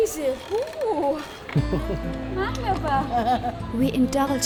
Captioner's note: laughing